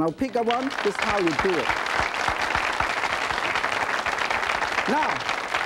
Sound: audience applauding

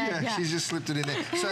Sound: laughter

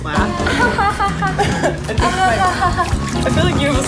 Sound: fake laughter

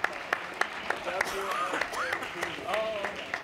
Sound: laughing

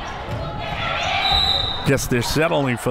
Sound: whistle

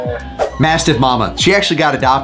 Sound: screen swooshes

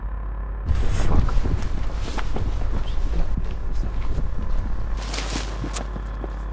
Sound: whispering

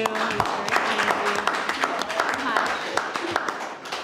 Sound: clapping

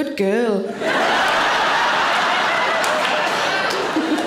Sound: audience laughing

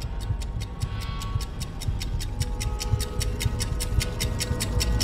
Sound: the ticking sound gets louder

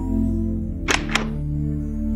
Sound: door opening

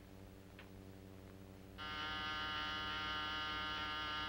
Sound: buzz

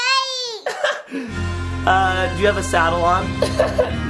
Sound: laughs

